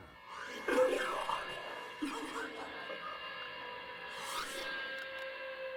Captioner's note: coughing and crying